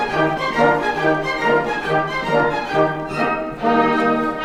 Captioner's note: none